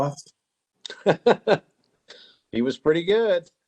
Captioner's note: laughing